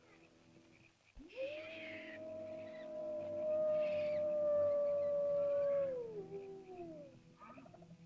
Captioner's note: animal howls; small animal screeches